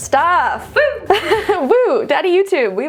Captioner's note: laughing